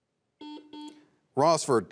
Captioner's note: buzzer beeps